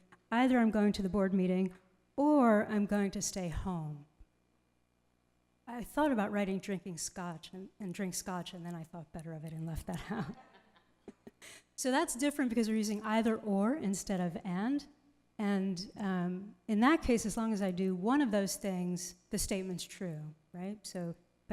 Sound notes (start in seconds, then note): 10.0 laughs; 10.0 group laughs